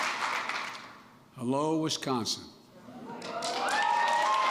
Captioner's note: applause; applause